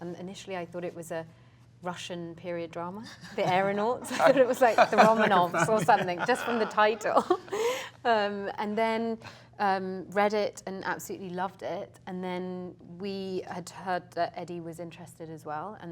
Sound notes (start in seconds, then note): 3.2 all laughing; 8.0 laughs